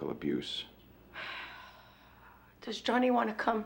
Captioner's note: sighs